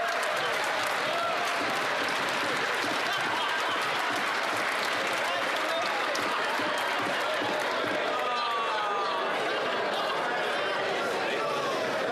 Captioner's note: some Applause